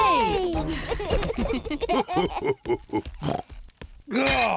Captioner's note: all laugh